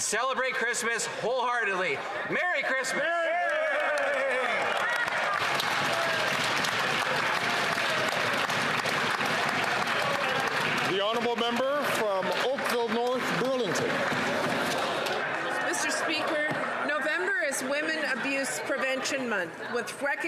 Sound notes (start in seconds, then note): 8.1 some Applause